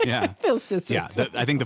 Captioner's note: laughs